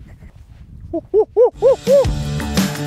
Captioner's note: monkey noises